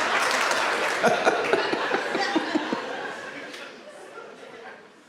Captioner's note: audience laughs; laughs